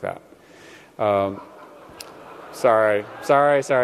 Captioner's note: laughter